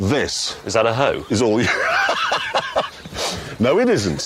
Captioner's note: laughs